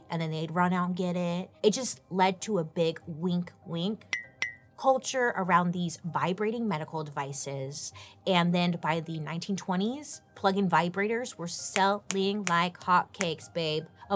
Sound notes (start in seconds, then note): 4.1 winks chime